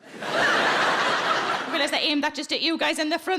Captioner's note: audience laughing